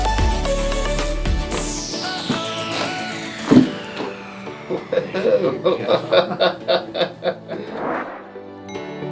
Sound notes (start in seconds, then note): 2.1 cracking; 4.4 laughs